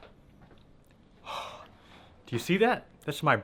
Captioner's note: exhales